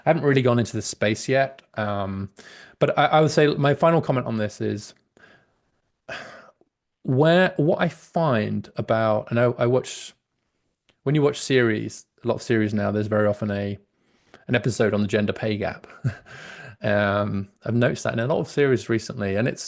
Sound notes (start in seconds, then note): 16.0 laughs